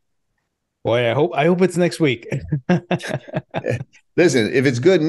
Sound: laughing

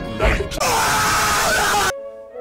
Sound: piglet scream

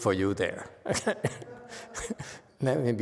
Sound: laughs

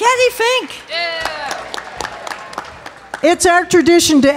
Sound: audience clapping

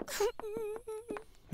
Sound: sniffles

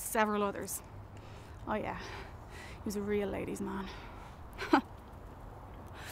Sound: laughs

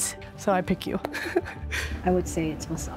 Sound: laughs

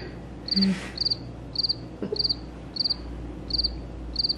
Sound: chirp sound

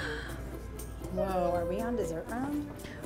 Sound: gasps

